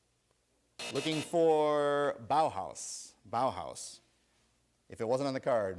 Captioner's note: buzzer